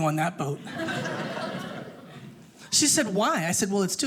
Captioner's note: audience laughing